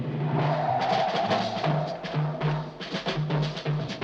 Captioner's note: tires screeching